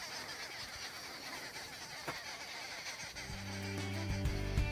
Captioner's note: birds cawing; uplifting music